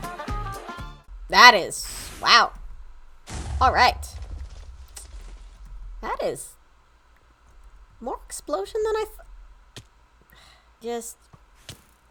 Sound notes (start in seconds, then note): 6.7 sigh